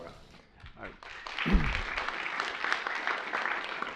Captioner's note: applause